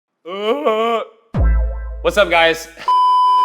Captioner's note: groans